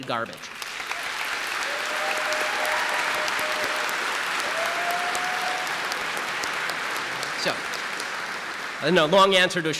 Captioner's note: audience applause